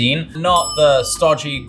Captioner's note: dinging